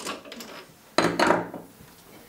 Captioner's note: clattering